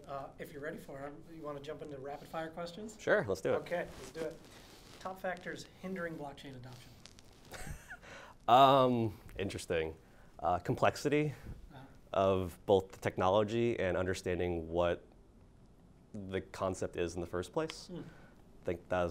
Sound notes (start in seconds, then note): 7.5 laughs